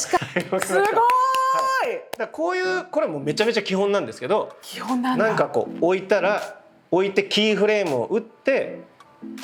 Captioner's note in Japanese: 拍手